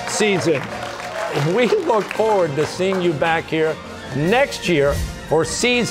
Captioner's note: chuckling